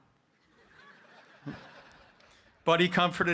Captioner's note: audience laughing